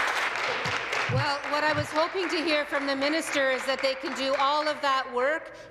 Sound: applause

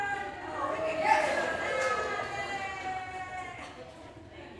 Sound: audience cheering

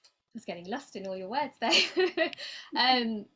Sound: laughing

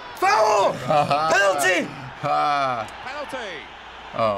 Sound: laughing

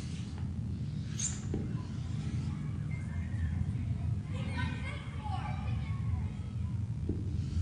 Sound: children's conversations outside of tunnel

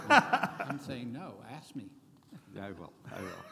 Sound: laughing

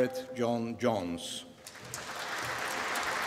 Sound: applause

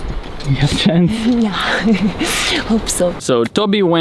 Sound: giggling

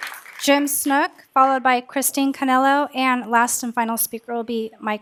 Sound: applause

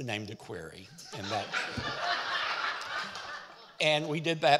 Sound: audience laughing

